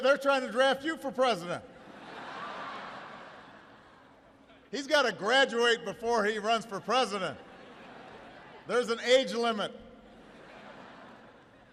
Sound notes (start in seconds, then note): 1.7 laughter; 6.7 laughter